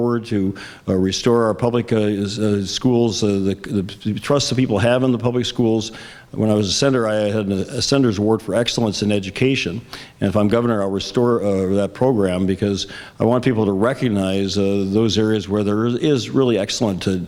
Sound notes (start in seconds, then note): none